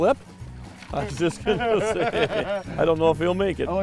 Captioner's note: laughing